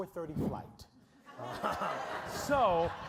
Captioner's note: audience laughing